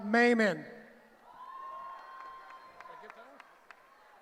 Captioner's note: cheering